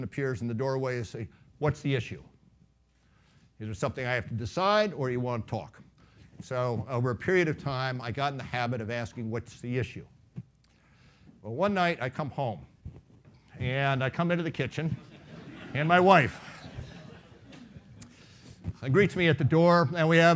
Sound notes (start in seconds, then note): 15.0 laughing